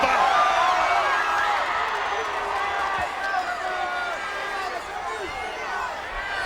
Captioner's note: audience cheering and yelling